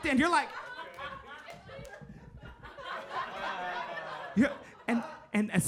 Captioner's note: audience laughing